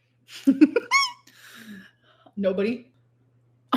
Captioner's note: laughing